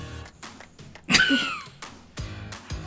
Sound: laughing

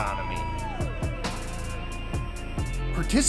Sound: crowd exclaims

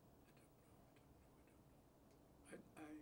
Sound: quietly

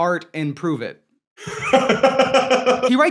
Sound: laughing

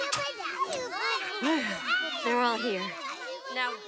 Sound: crying, babbling; sighing

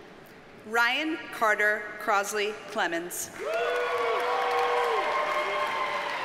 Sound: audience cheers and applauds

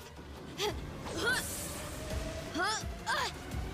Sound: grunting

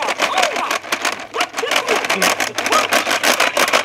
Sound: grinding

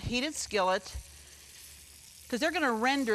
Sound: bacon sizzling

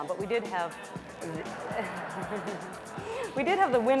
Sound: laughter

